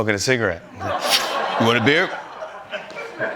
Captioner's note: inhales; laughter